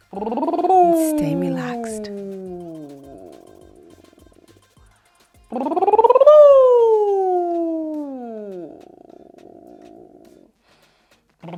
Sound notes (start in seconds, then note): 0.1 lips trilling; 5.6 lips trilling